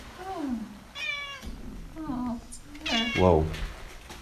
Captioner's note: cat meows